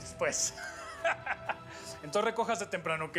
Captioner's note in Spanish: risas